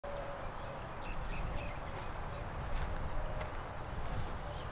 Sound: birds chirping

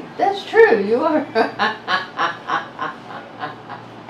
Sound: laughs

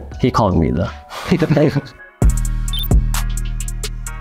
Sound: Jeremy and Joe chuckling; lofi music

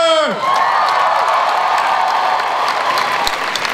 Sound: crowd cheers and applauds

